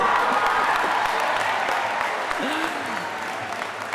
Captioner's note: audience cheering